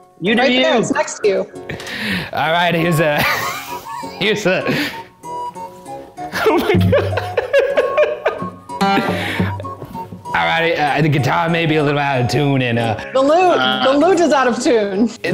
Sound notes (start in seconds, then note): 3.1 laughs; 8.8 laughs